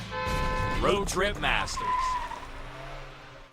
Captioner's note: car horn blares; engine revs; tires squealing